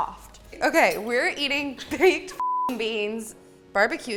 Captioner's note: beep